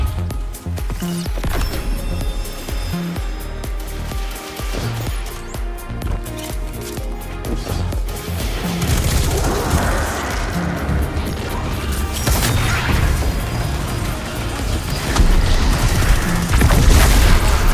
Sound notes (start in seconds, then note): 2.4 gun sounds, action fighting